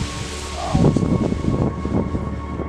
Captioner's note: grunts